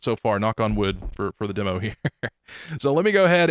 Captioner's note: chuckling